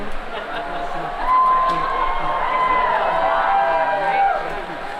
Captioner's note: laughter and cheering